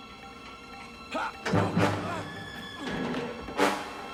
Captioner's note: grunts